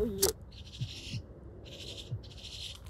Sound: bird chirping

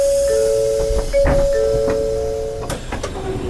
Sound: bell dings

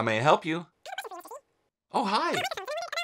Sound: cartoon speaking

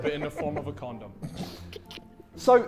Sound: Vikram laughing

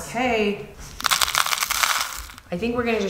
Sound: granola rattling

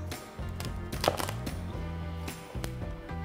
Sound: crunching

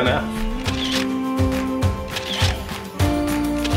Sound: camera clicks

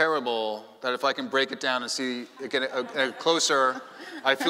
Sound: chuckling

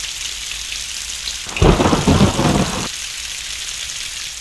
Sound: thunder booms

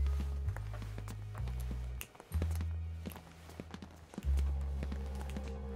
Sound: sound of footsteps

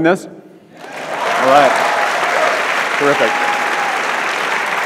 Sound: audience laughs

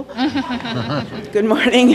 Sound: laughter

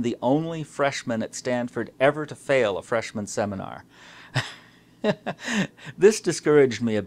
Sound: laughs

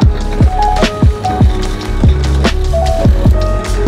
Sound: motor clanking

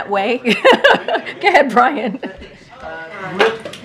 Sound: laughs

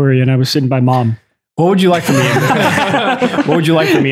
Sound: laughs

